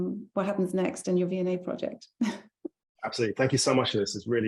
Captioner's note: laughing